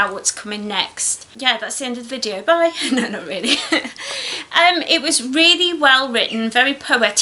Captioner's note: laughs